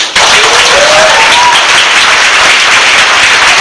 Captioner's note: audience applause